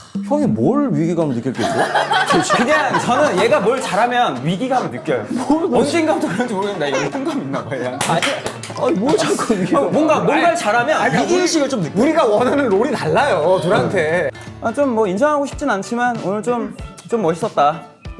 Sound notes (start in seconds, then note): 2.1 laughing